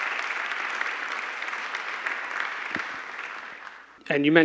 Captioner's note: applause